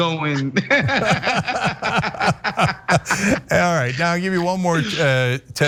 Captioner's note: laugh